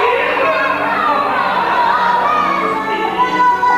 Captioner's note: laughs